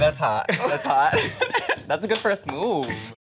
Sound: laughs

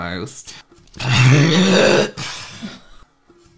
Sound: gagging

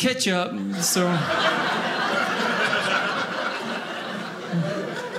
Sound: audience laughing

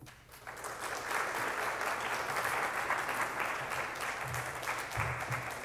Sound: applause

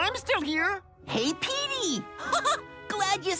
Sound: laughs

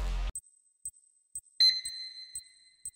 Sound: counter beeps

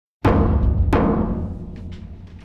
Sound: pounding

